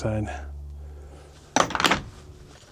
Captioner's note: clanking